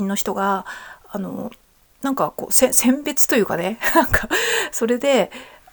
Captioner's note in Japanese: 笑い